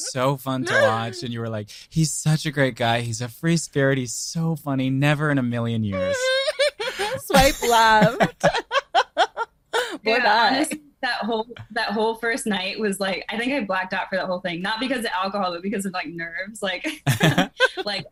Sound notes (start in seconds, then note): 9.9 laughs